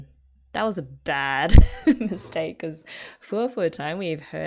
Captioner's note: laughs